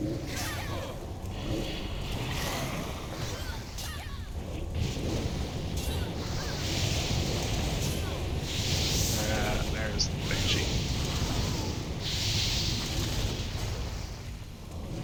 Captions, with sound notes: (screaming) - Ah, there's the benchy.